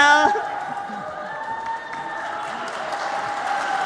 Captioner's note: applause